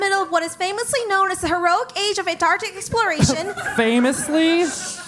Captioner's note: laugh